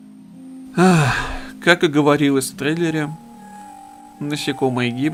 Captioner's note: sigh